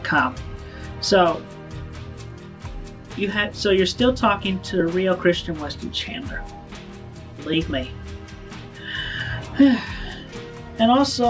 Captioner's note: sigh